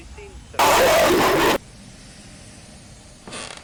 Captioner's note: loud glitch with a scream